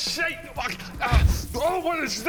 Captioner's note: poof